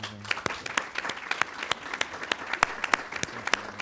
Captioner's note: audience applauds